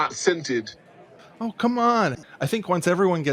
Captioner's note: whiny